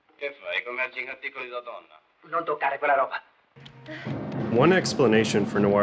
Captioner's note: characters speaking Italian